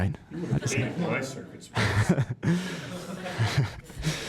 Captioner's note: laugh